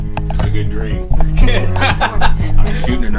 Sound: laughing

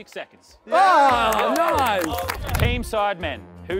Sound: contestants clapping

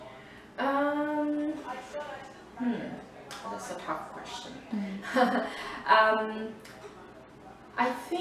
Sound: laughs

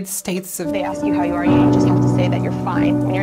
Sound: voiceover

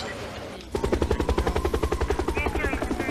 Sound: helicopter noise

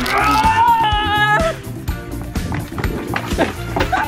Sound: yelling

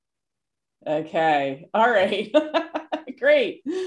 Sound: laughing

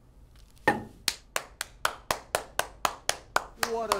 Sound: Cary clapping

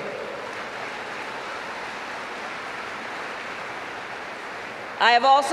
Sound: applause

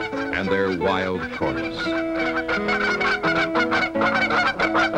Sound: geese sounds

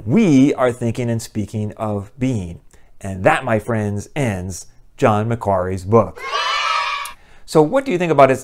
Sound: kids cheering

